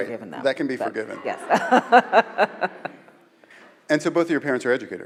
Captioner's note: laughing